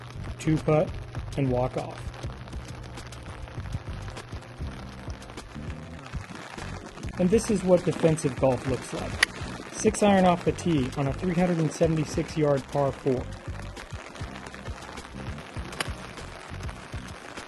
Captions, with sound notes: 2 putt, and walk off. [rain patter on my umbrella] This is what defensive golf looks like. It's iron off the tee on a 376 yard par 4.